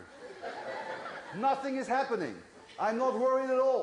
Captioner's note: laughter